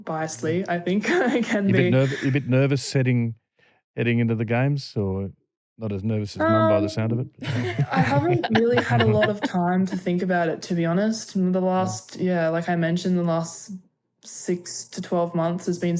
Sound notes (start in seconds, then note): 1.0 laughter; 6.4 laughing; 7.4 laughter